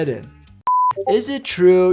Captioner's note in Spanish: pitido de pantalla